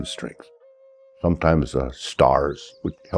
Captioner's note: birds twittering distantly